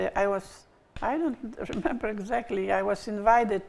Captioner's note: bottle snapping